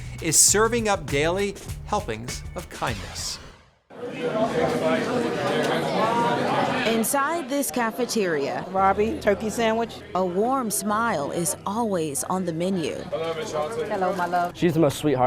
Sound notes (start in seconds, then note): 4.4 crowd chattering